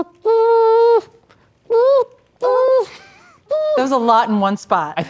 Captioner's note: imitating trumpet